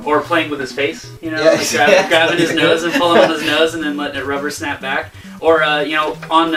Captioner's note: laughs